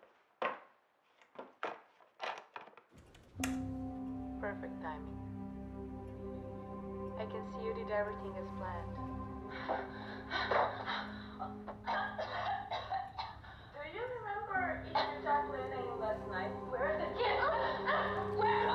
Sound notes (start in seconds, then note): 3.6 tense music; 9.7 Aleks coughs